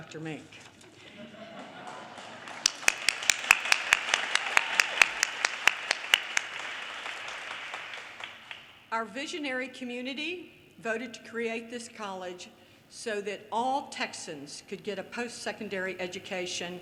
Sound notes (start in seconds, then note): 6.0 audience laughter, cheers, and applause